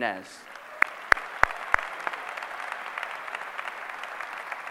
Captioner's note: applause